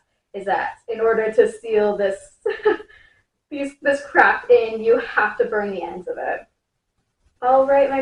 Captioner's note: laugh